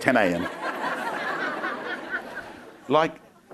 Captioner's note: crowd laughing